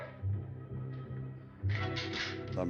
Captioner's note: gun cocks